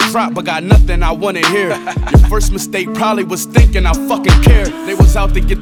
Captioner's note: ha ha ha